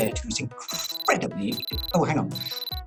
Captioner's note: beeping